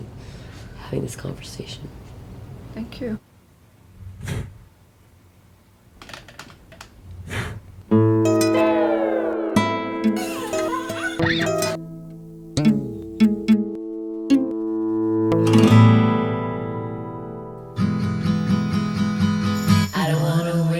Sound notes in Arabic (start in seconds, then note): 4.2 ينفخ شمعة